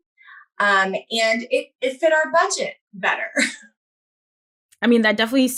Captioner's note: chuckles